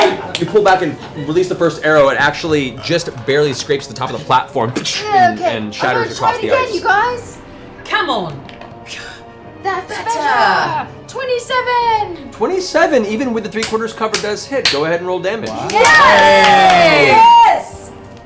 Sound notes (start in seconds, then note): 15.4 cheering